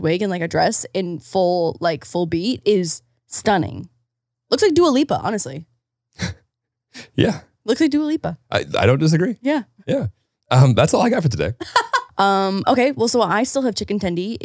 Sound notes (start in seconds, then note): 6.5 chuckles; 11.6 laughing